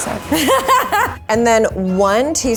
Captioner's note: laughs